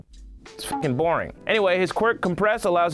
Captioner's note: beep